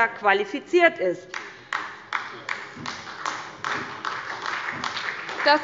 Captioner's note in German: Beifall bei Abgeordneten der SPD